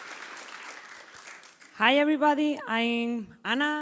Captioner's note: applause